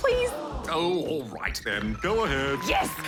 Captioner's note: audience gasps